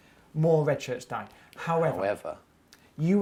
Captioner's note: echoing